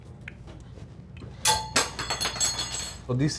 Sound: spoon clanging

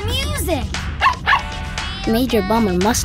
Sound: barking

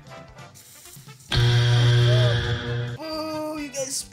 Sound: buzzer

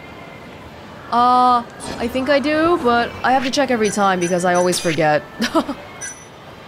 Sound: chuckles

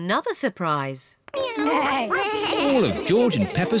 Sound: all making animal sounds

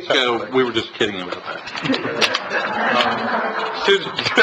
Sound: laughs

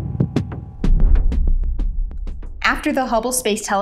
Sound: whoosh

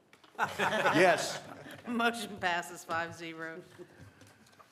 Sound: laughter

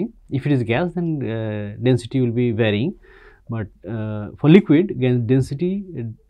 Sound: pwf

